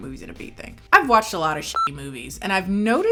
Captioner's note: beep